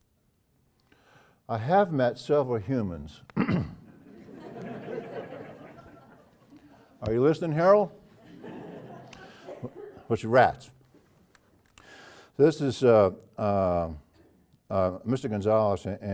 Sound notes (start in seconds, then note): 3.3 cough; 3.8 laugh